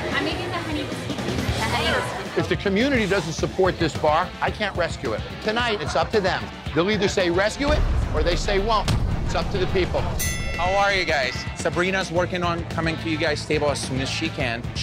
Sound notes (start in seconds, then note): 10.2 ring bell dinging